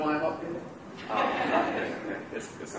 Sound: laughter

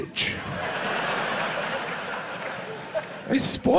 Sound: audience laughs

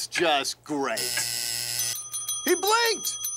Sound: buzzer, bell ringing

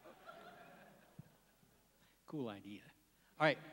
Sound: laughs

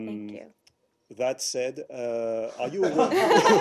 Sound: laughter

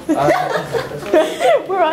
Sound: laughs

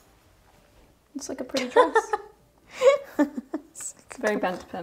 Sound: laughing

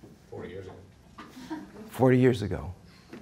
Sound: audience laughing

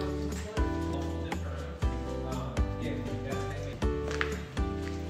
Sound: man chattering

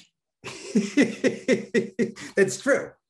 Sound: Denis laughing

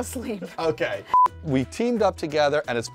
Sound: beep

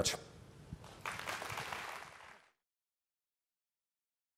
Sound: applause

